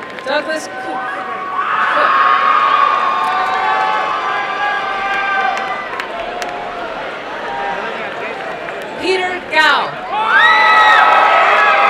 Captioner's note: crowd cheering and applauding